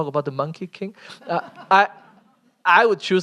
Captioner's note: laughter